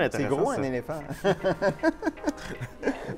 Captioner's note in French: rires